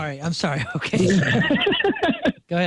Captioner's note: laughing